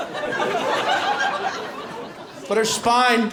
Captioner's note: laughter